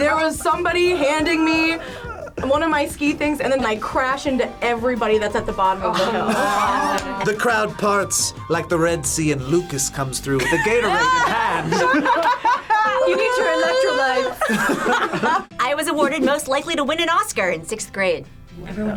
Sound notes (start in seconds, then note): 10.3 group laughs